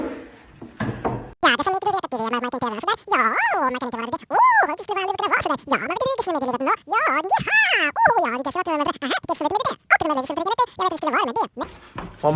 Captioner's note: speeded-up comedy gibberish